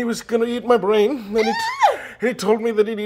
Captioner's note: shrieks